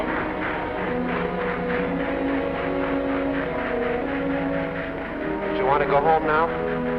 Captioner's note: sentimental music; train chugs away